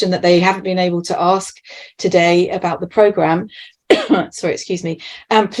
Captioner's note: coughs